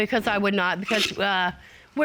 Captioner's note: scoffs